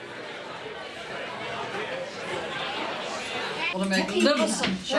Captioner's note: crowd chattering